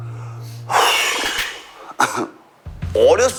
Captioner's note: sighs when thinking about a throwback